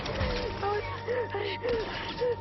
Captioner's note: güler